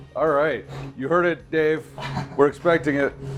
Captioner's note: laughing